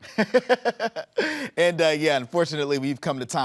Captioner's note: laughing